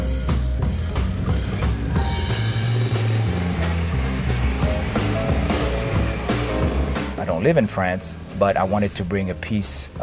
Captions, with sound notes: (car engine puttering) (jazzy upbeat music) I don't live in France, but I wanted to bring a piece